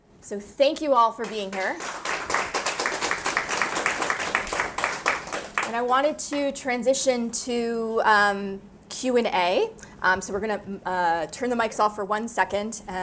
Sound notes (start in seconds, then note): 1.3 audience applauding